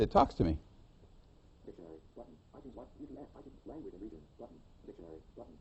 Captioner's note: iPhone announcing highlighted tabs